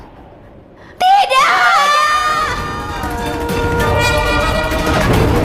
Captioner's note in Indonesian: berteriak